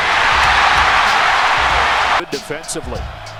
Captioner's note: cheering